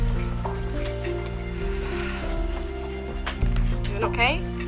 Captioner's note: sighs